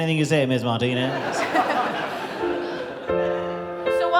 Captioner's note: audience laughing